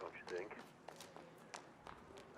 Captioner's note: running footsteps